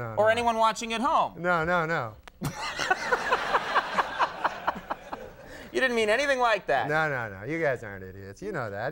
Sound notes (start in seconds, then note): 2.4 Conan laughing; 2.5 audience laughing